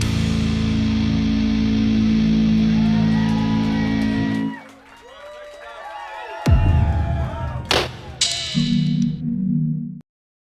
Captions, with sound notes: (audience cheering) Thanks, guys. (graphics booming)